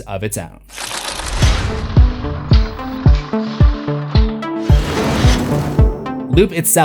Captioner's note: impact